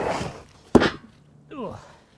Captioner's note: thudding